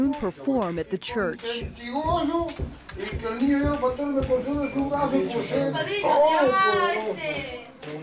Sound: speaking in Spanish

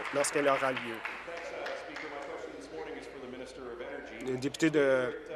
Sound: applause

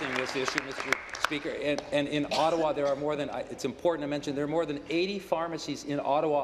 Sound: applause

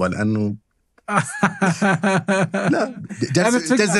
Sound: laughter

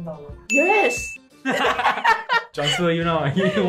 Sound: laughing collectively

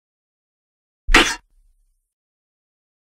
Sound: sound of sword

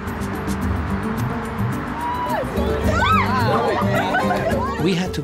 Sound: cheering and Laughter

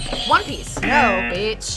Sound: buzzer rings; buzzer

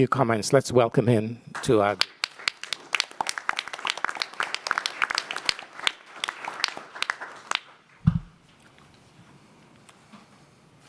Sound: applause

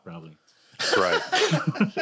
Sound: laughs

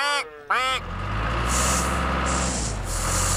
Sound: engine Running

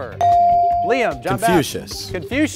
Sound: ding

